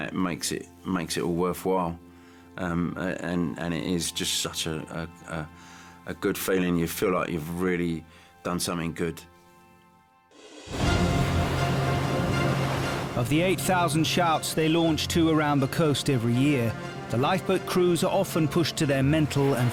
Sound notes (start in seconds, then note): 10.9 upbeat music; 12.6 boat engine revving